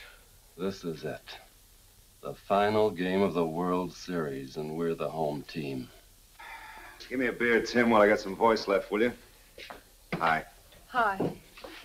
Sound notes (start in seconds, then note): 6.4 sighs